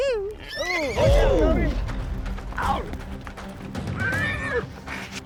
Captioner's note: horse whinnies; horse whinnies